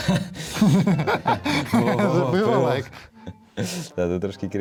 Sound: laughter

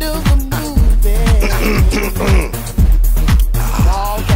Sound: clears throat

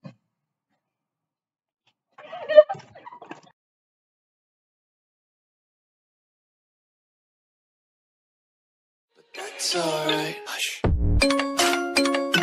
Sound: laugh; beat Drop

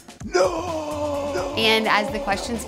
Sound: echoing male voice saying no

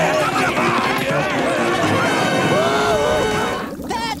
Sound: screaming

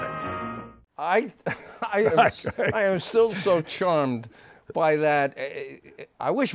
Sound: chuckles

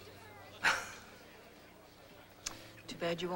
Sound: laughs

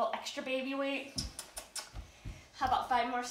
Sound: kisses

